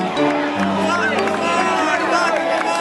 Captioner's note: applause